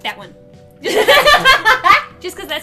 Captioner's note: both laughing